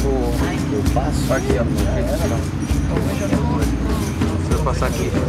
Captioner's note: chattering